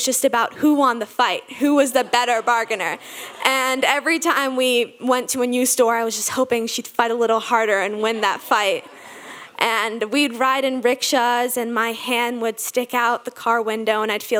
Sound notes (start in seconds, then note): 1.6 audience laughing